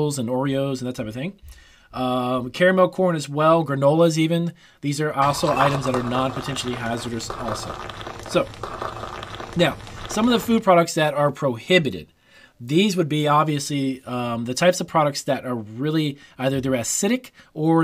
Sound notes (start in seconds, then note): 7.9 liquid sloshes